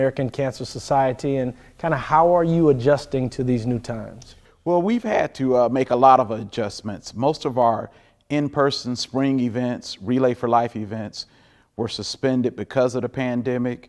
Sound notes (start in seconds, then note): none